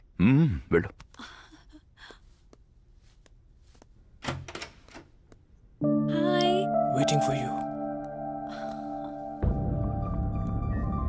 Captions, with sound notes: Go... get her. Hi! - (Whispers) Waiting for you.